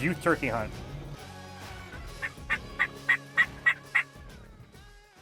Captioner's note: turkey call squawking